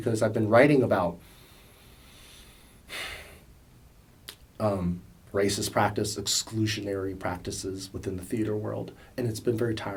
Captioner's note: sighs